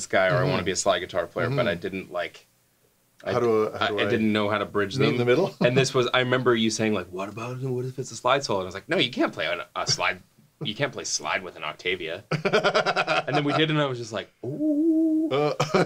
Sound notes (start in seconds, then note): 12.3 laughing